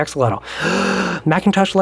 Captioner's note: inhales